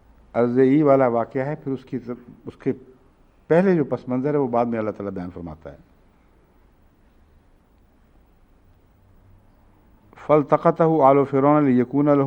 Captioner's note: Arabic